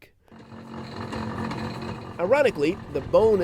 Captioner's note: mechanical whirring